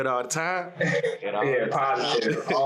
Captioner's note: laughs